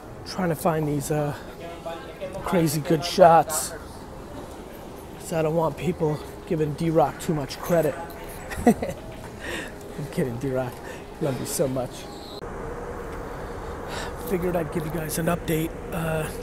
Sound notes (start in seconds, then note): 7.9 laughs